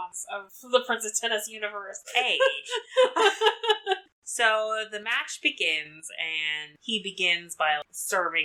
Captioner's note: laughs